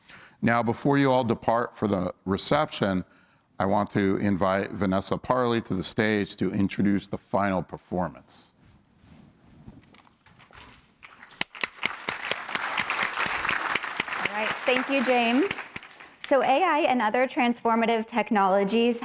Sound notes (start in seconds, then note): 11.0 applause